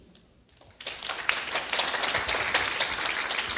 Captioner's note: clapping